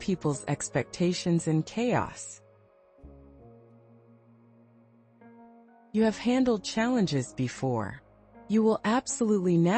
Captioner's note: pause